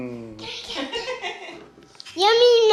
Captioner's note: laughs